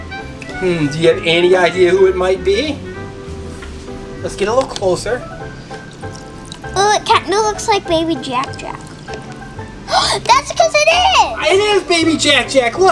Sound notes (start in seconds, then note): 9.8 gasps